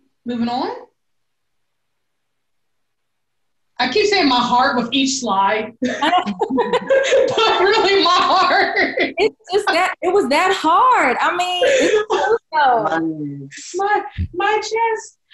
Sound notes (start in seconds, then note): 5.8 belly laughing